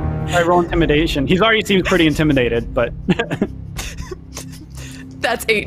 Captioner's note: chuckles